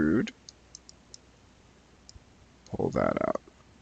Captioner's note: mouse clicking